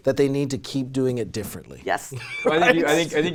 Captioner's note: laughs